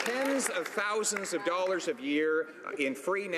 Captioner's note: some Applause